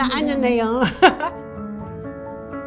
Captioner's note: laughs